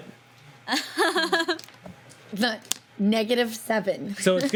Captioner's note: laughs